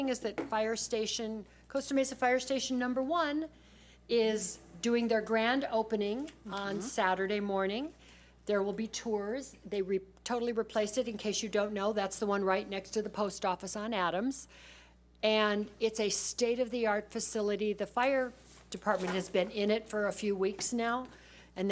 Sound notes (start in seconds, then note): none